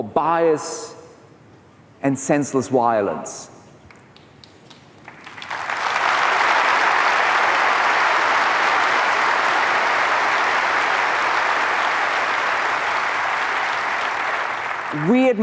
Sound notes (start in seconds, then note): 10.8 applause; 14.5 applause